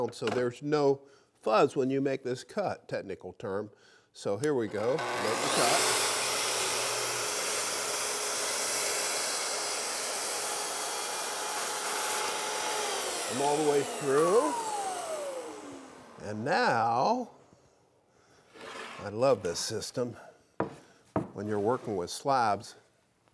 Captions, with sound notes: so there's no fuzz when you make this cut, technical term. So here we go, make the cut. (saw buzzing) I'm all the way through. And now, I love this system when you're working with slabs.